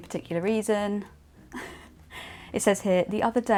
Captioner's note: laughs